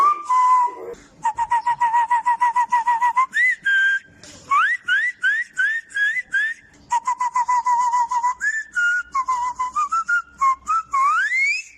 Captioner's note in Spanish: Silbidos; Otra vez silbidos con un puro en la mano